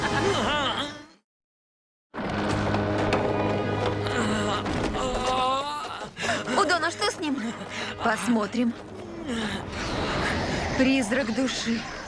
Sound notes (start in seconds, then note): 4.9 chip groaning